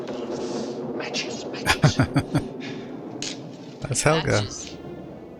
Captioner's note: laughing